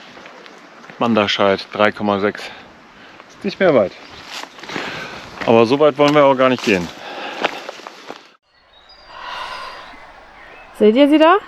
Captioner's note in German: seufzt